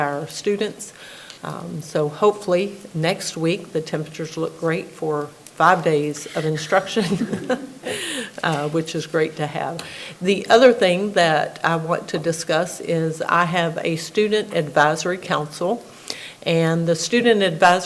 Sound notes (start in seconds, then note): 6.1 laughs; 8.6 everybody laughing